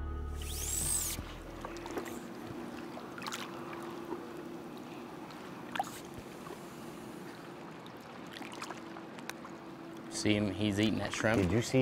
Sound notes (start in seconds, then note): 0.4 reel spinning; 3.4 water gently splashing